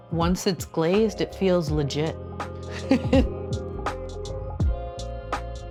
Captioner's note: laughs; soft music